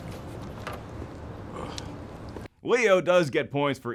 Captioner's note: burping